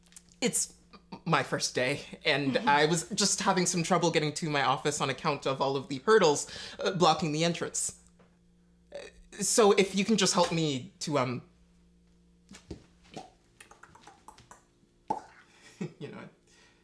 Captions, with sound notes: It's my first day, and I was just having some trouble getting to my office on account of all the hurdles blocking the entrance. So, if you could just help me to, um-- [clicking mouth] Heh, you know…